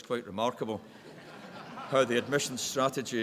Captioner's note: chuckles in the background